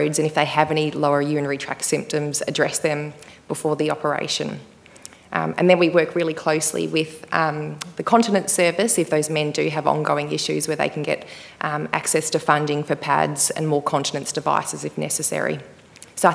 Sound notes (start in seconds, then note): none